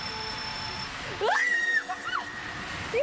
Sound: screams

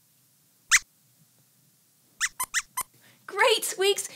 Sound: squeaks squeaks

